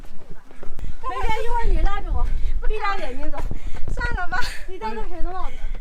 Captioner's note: speaking foreign language